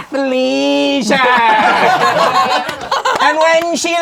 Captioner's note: crowd laughing